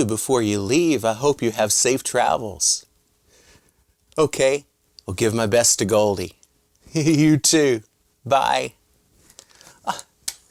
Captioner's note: laughing